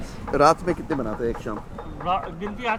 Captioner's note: speaking in foreign language